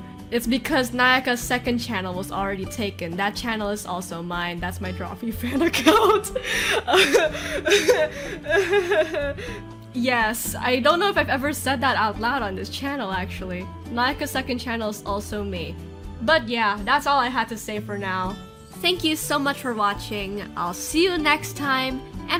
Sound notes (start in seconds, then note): 5.5 nervous laughter; 5.5 breaks down laughing